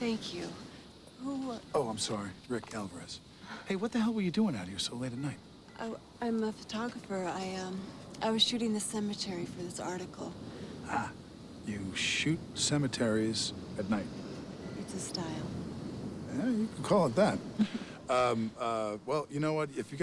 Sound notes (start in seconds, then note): 17.6 woman chuckles